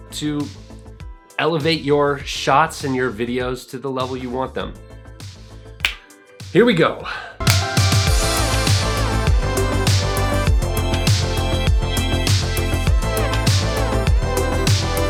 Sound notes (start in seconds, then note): 5.8 finger snaps; 7.4 upbeat music